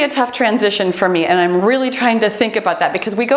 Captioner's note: timer beeps